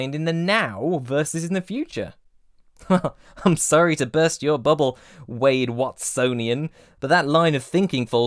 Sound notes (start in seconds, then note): 2.8 grim chuckle